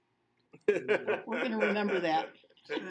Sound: laughing

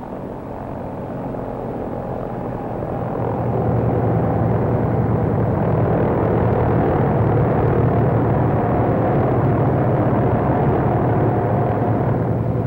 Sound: rotor blades whirling

